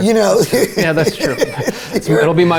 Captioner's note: laughs